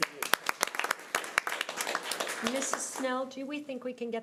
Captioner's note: audience applause